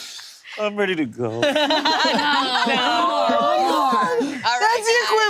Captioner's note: group laughing